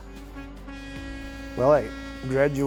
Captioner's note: horn honking